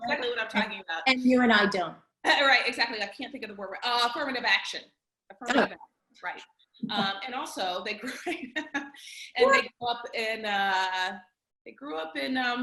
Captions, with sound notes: - They know exactly what I'm talking about. - And you and I don't. - Right, exactly, and I can't think of the word, affirmative action! - Oh! - Affirmative action, right. And also, right? (laughing) And they grew up in Jim Crow.